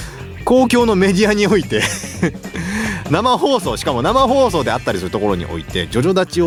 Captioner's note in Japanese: 笑い